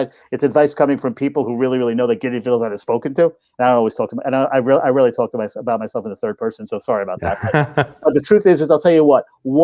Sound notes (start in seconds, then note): 7.2 laughing